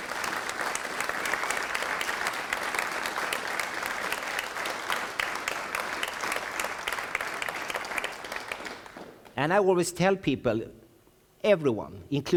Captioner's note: applause front the audience , applause , applause ,applause